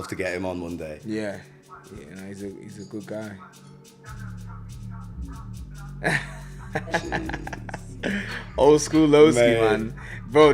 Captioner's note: laughs